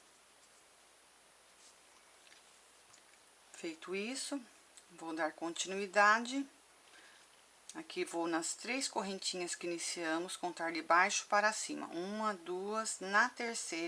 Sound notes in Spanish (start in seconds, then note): 5.3 en español